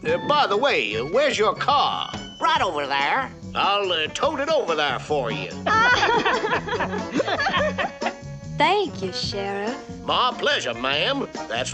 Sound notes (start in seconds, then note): 5.6 Bunny and Claude laughing